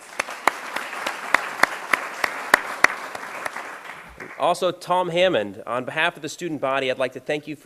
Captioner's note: applause